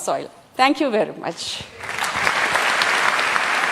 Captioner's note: applause